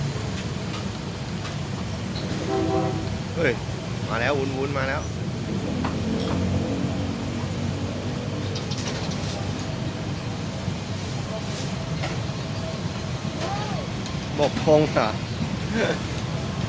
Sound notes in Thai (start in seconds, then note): 2.2 ปู้น ปู้น